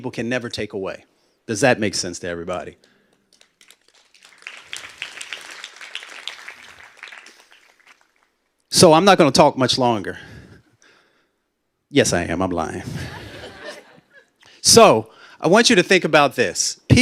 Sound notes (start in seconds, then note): 3.3 applause; 12.8 laughter